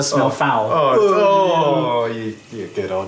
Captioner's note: both groan ironically